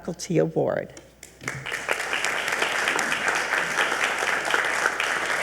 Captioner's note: attendees applauding